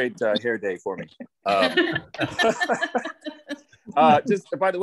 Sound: laughter

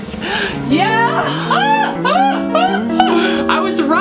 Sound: laughs

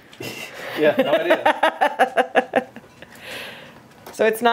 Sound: laughing

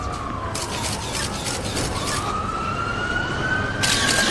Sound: camera shutters

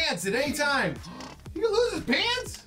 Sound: gasps

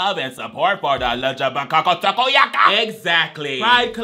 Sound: speaks gibberish

